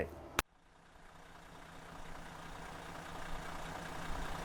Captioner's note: bus engine revving